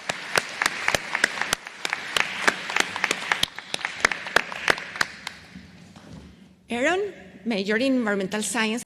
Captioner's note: applause